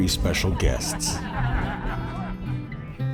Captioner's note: laughter